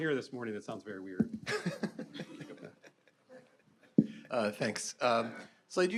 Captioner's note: all laughing